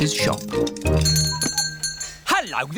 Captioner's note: bell ringing